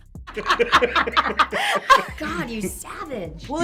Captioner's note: laughing